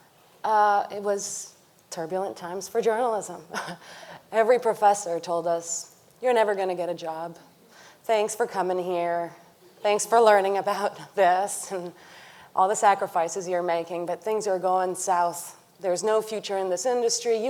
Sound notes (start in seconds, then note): 3.6 chuckles